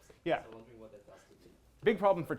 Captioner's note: speaking faintly